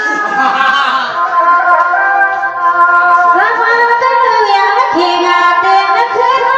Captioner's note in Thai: เสียงหัวเราะ